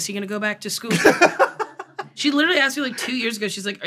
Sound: laughs

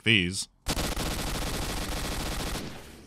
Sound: rapid gunfire

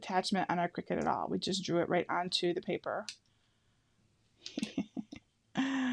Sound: laughs

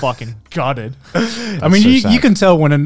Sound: laughing

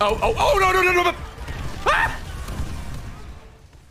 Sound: screams

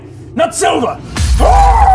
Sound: smash

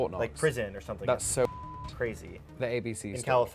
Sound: beep

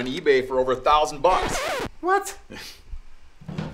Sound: record scratch

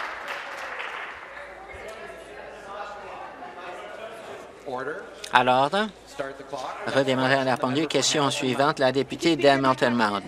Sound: applause

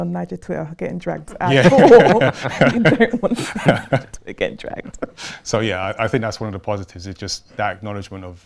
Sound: laughter

